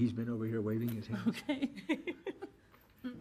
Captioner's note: laughing